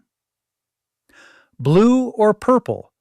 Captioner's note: pause